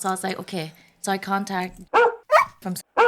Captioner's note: bark, Bark